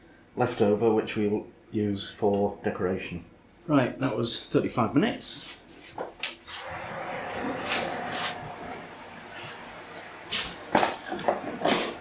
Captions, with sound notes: leftover which we will use for decoration. Right, that was 35 minutes. [ OVEN ROAR ]